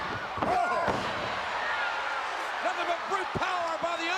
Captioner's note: Hart thuds